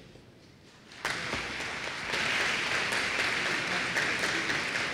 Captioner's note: applause